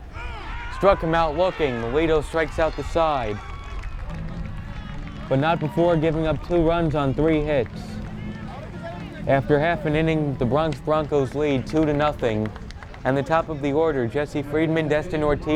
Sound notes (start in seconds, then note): 0.2 players yell; 3.6 crowd cheers and applauds